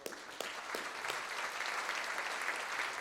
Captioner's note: applause